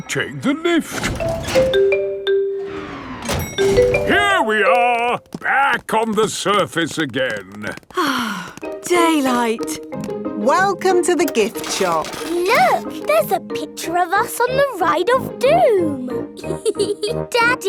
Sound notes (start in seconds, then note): 1.0 elevator dings; 7.9 sighs